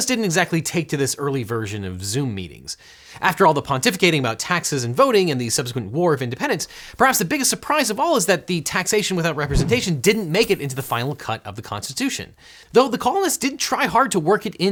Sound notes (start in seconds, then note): 9.4 air whooshing; 10.2 coins clinking